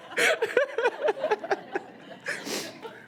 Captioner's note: laughs